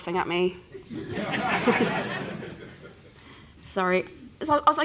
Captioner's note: laughter